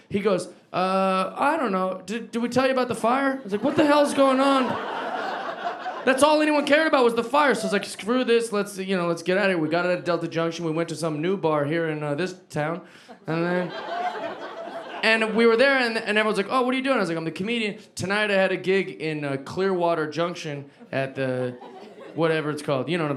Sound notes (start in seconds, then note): 13.1 audience laughing